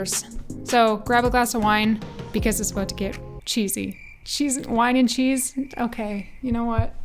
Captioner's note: crickets